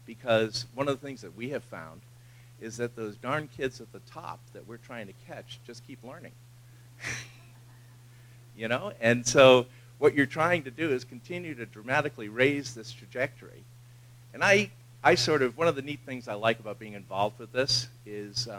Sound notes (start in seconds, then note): 7.0 laugh